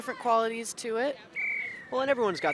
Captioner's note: whistle blows